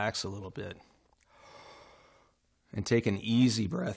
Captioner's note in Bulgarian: спокойно вдишване